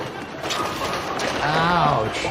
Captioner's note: pins clatter